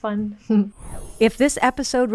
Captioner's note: sparkly air wooshing